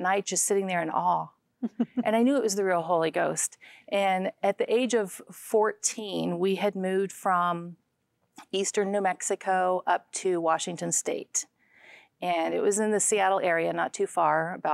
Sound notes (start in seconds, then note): 1.6 giggling